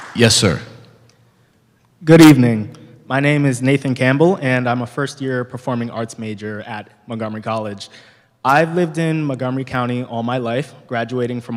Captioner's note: clapping